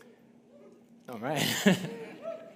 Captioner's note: audience cheering